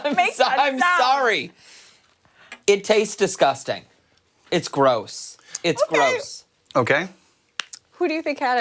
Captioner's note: laughter